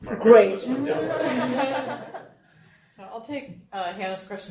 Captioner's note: group laughing